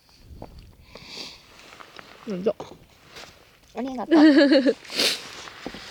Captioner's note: haha